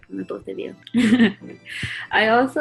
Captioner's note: chuckles